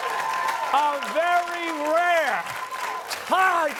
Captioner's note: cheers and applause